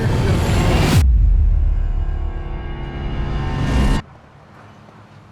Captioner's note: air whooshing